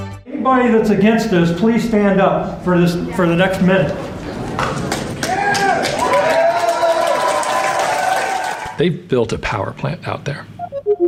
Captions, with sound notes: - Anybody that's against us, please stand up for the next minute. (crowd cheering) (crowd applauding) - They've built a power plant out there